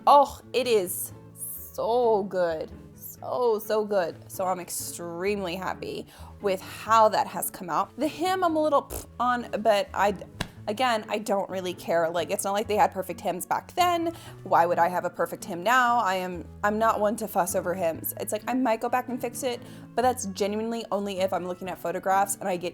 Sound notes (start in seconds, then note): 10.3 scoffs